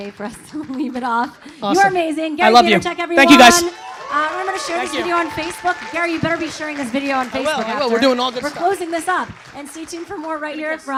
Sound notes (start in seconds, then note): 3.7 audience applause